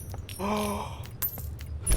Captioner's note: gasp